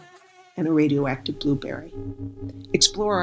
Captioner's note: insect buzzing; energy whirs